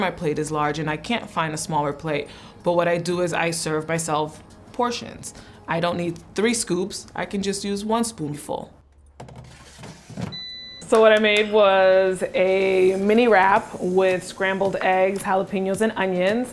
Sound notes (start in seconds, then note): 8.7 air fryer beeps